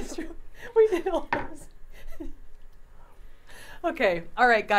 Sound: laughing

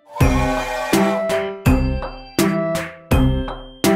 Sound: bright percussion music; train whistles; bright percussion music

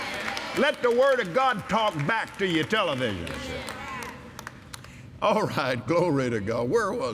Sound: audience "Amens" & Applause; audience Agrees

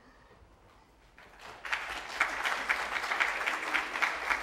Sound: applause

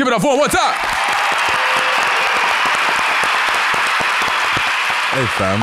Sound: audience applauding

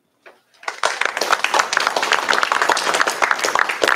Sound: applause

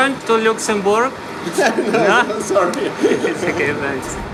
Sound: laughs

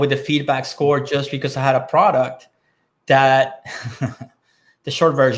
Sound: laughing

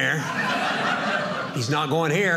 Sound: audience laughing

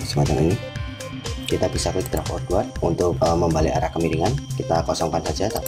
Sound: click

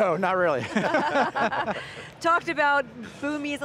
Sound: laughs

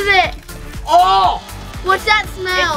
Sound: special effects blooping; cider splashing

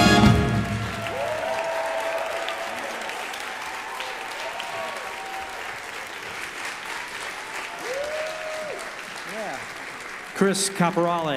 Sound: audience applause

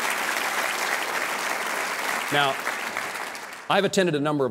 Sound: applause

